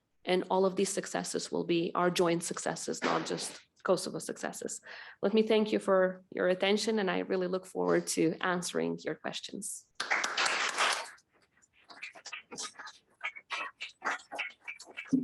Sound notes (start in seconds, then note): 10.0 audience applauding